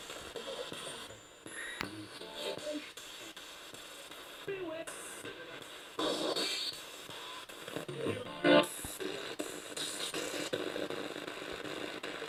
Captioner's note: sound of the Spirit Box in the background